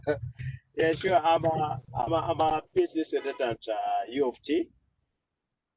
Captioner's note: laughs